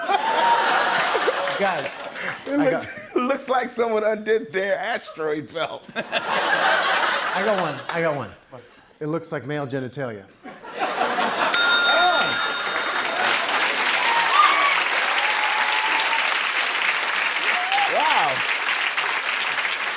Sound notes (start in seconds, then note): 11.4 ding; 13.5 cheers and applause